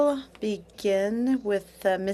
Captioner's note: speaking French